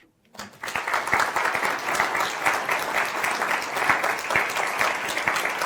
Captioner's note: applause